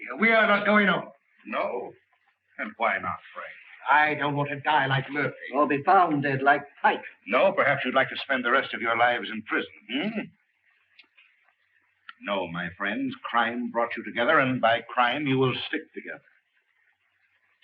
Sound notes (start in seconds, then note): none